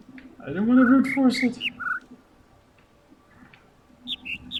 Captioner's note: overlapping birds chirping, ˥ ˧ ˥ ˩